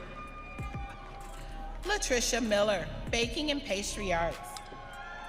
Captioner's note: audience cheering